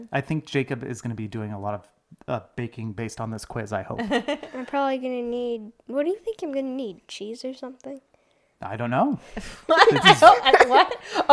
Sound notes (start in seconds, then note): 4.0 laughs